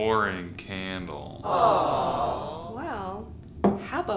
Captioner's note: audience groans